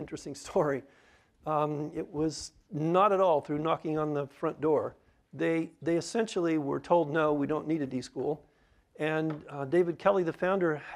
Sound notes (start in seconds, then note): none